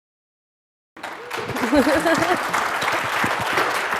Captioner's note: clapping